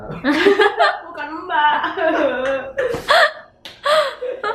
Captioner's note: laugh